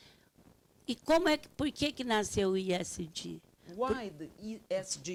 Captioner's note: speaking Portuguese